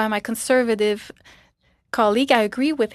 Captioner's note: speaking French